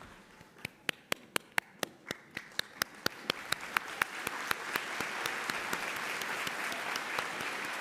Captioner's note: cheering; applause